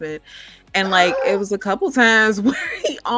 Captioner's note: laughing